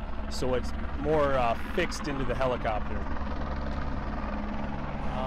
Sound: incoming helicopter blades thumping

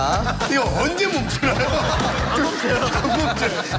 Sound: laugh

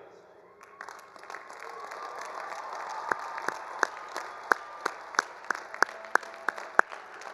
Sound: all applauding; all cheering

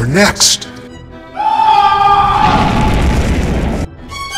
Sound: Ken screams

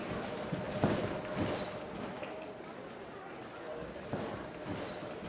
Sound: footsteps shuffling

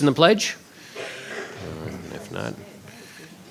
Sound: people murmuring

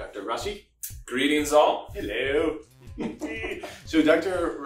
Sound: giggling goofs

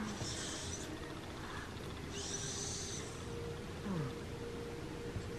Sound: baby breathing

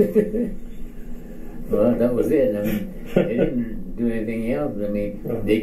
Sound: chuckles

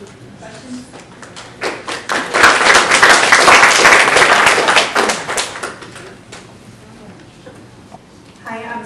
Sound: applause

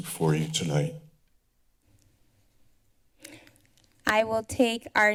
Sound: silence

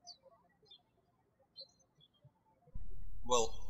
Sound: birds chirping

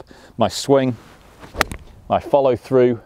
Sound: ball thwacks

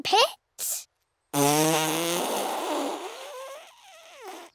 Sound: blows raspberry

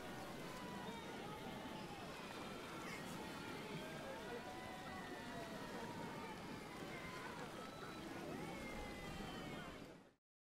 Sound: quiet ambient crowd sounds

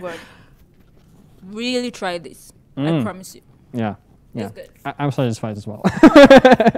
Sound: laugher

